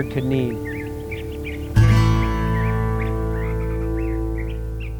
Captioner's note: birds chirping